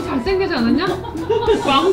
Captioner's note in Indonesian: tertawa